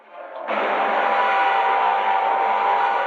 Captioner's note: rocket whirring